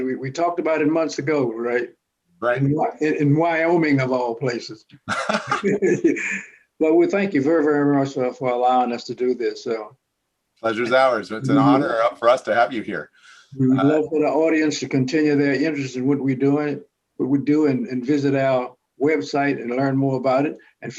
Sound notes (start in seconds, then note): 5.0 laughter